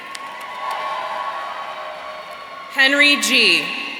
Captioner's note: audience cheering